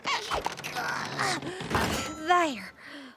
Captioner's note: grunts